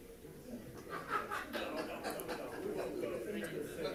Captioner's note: people laughing